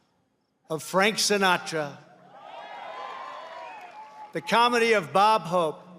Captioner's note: applause